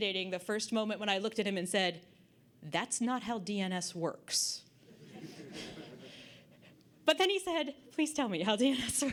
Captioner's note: audience Laughter